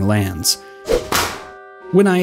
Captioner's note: slap